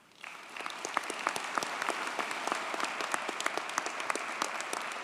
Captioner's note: audience cheers and applauds